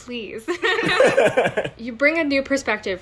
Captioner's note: laughing